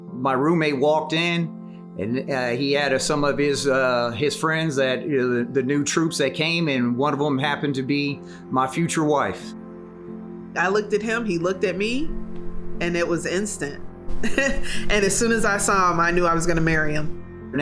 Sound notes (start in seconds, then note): 14.1 laugh